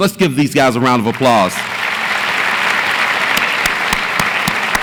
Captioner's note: audience applauds